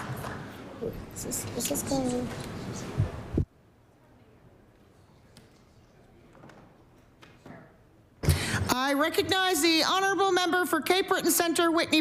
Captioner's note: applause